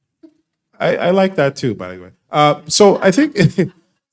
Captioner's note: laughing